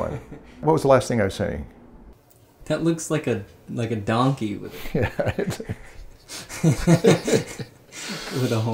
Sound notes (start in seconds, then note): 4.7 laughter